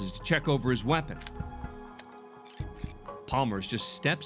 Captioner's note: clicking